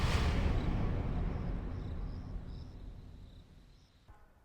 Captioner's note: dramatic music; insects chirping